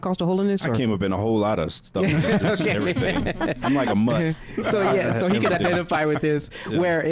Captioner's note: laughing